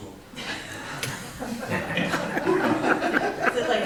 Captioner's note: all laugh